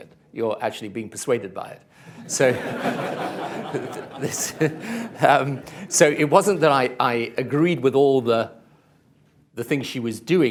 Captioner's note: laughter; laughs